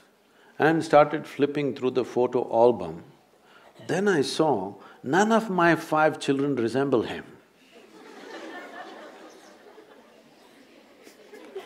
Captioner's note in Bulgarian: смях